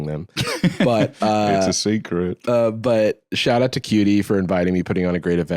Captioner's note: laughs